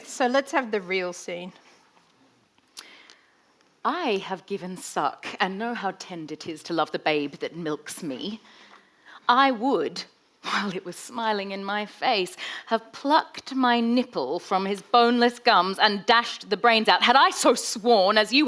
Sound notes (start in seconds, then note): none